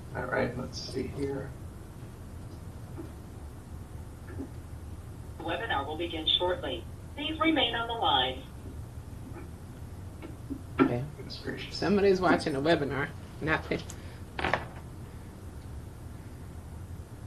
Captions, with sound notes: - All right, let's see here. - [Automated Voice] Webinar will begin shortly. Please remain on the line. - Somebody is watching a webinar, not fit.